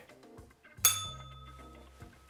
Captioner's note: bell rings